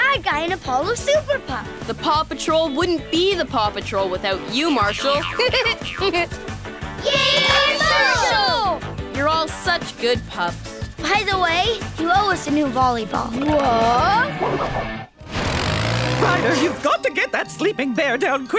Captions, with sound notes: in Apollo Super Pup. The PAW Patrol wouldn't be the PAW Patrol without you, Marshall. [giggling] Yay, Marshall! You're all such good pups. By the way, you owe us a new volleyball. What? Ryder, you've got to get that sleeping bear down quickly.